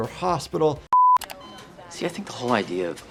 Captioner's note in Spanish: pitido de pantalla